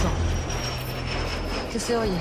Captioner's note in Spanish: Ruido del motor de avioneta